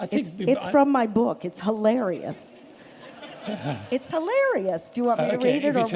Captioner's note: laughter